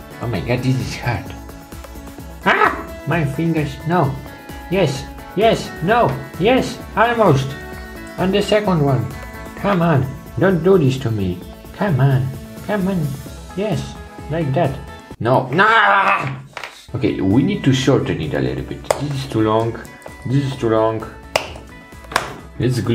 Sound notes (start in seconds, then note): 2.5 yells; 15.3 yells